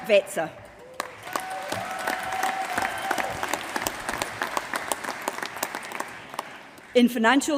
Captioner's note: applause